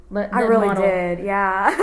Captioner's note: laughs